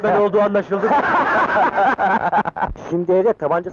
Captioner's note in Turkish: Kahkahalar